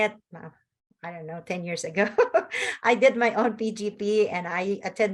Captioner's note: laughs